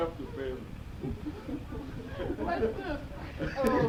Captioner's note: laughing